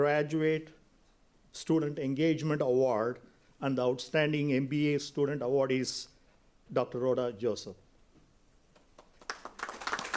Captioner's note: applause